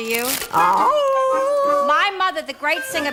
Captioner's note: howl